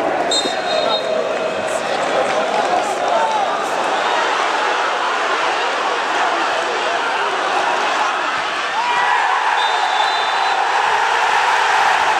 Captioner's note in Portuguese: sons da torcida